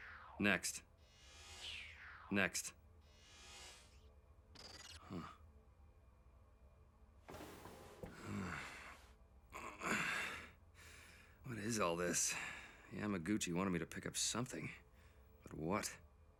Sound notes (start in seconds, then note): 8.0 groaning; 9.5 sighs